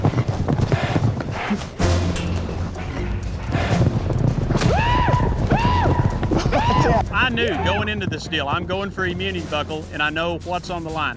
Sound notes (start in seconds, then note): 4.5 yells